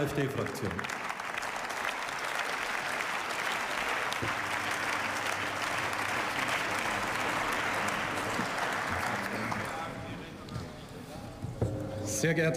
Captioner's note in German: Beifall